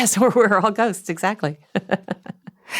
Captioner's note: laughs